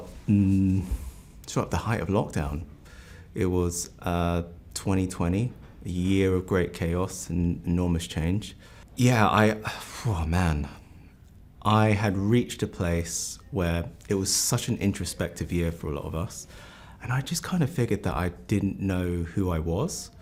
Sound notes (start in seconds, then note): 8.6 exhales